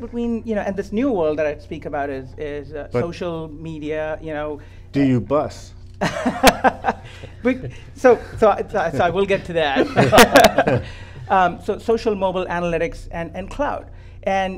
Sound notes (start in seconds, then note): 6.0 all laugh